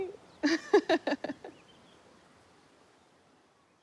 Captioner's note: chuckles